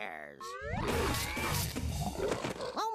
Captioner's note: growling